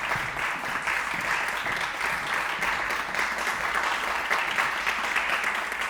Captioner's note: audience applauding continues